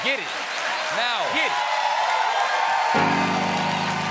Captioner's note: cheers and applause